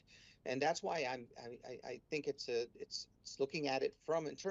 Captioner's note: speaking spanish